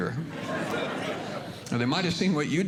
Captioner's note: audience Laughing